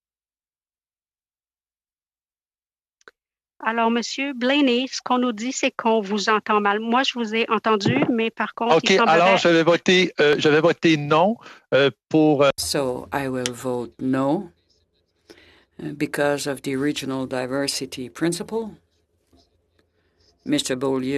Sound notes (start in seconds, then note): 13.0 speaking French